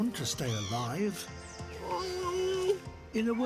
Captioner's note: whines